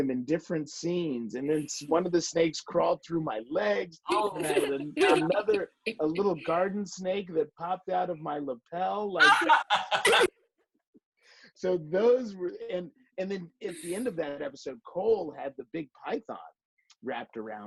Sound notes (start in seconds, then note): 9.2 laughter